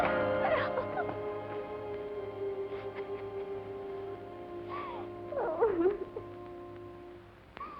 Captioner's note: crying